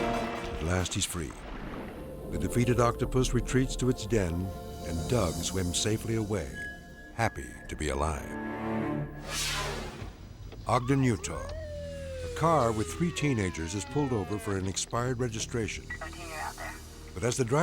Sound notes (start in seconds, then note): 9.2 scene swooshing